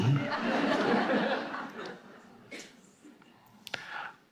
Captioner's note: audience laughing